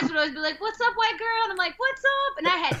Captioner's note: laughter